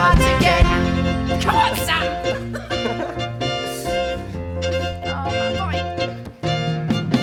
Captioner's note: they laugh